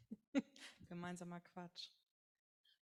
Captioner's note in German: lacht